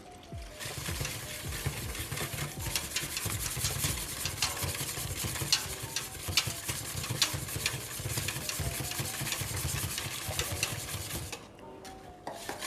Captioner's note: whisking